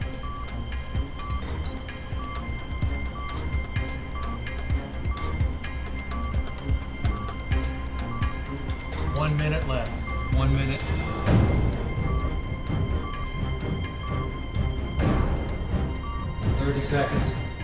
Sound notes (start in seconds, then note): 1.1 beeping continues; 5.9 music tension intensifies